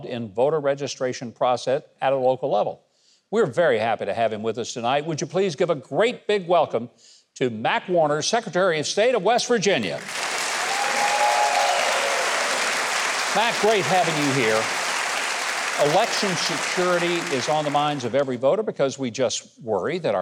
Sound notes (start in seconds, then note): 9.9 audience cheers